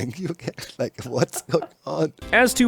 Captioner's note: chuckles